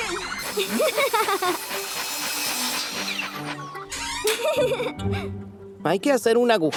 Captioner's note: sawing; giggling